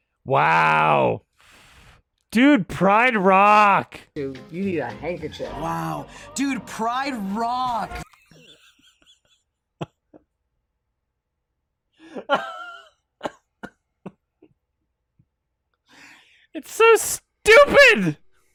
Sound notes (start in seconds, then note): 11.0 laughs